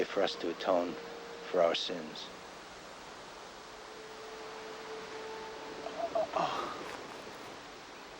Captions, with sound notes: "to atone for our sins." (man groaning)